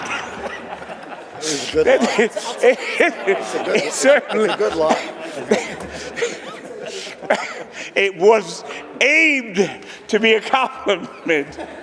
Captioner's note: laughter